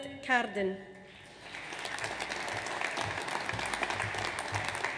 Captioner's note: audience applauds